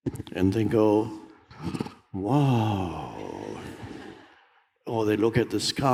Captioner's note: audience laughs